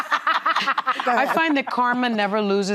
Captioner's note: laughing